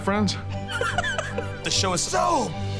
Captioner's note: laughs